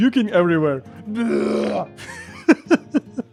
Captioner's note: me imitating pucking sound